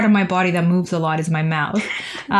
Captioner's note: laughter